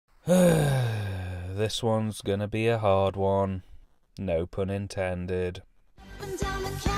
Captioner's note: sigh